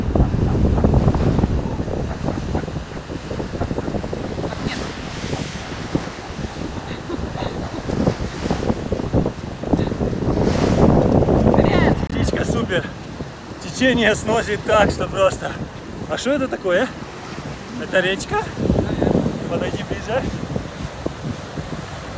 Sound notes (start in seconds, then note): 6.6 laughter